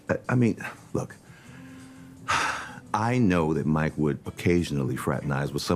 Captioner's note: sighs